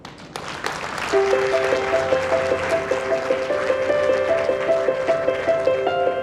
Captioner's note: audience applauding and quiet piano music